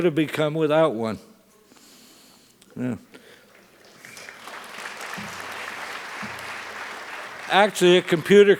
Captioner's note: applause